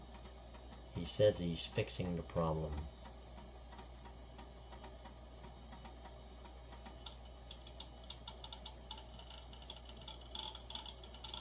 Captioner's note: sound of writing to the diskette